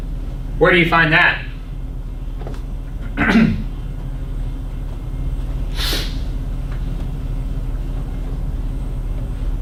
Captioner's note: clears throat